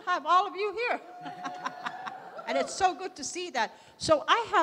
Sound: laughs

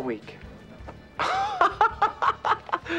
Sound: laughing

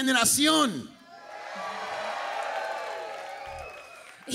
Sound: crowd cheers

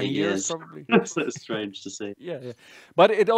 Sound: chuckles

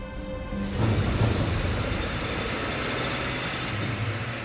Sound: tank rumbling

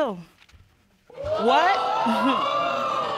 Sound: audience exclaiming

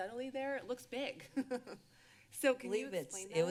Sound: laughter

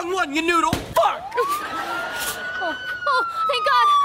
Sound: police Sirens

